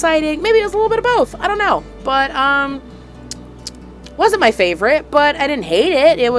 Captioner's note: lip smacking